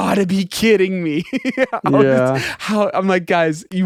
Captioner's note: laughing